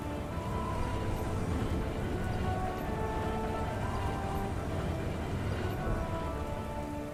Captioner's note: wind howls